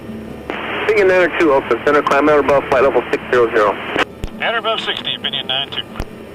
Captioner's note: radio tower chatter